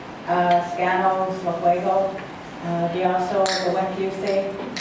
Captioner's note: speaking in foreign language